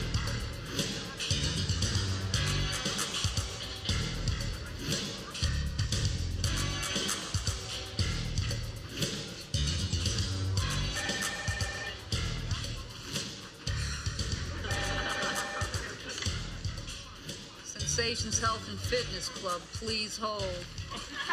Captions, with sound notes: (PHONE RINGS) (SIGHS) Sensations Health and Fitness Club. Please hold.